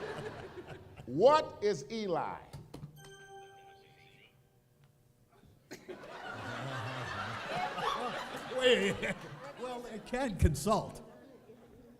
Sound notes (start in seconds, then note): 5.7 that was easy, laughter